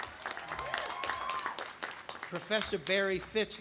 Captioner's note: audience applauding